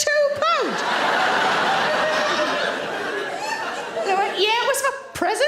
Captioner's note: audience laughter